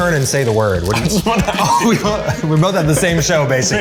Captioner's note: laughs